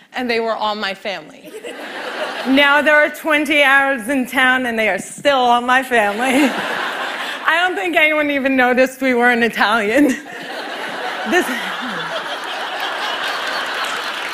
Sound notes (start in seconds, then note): 1.4 laughter; 6.1 laughter; 10.0 laughter